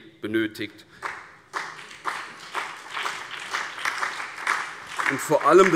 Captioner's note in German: Beifall